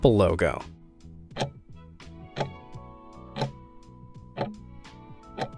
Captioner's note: timer ticking